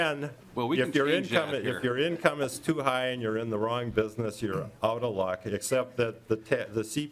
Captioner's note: laughing